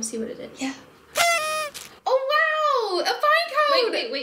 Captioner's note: surprise sound effect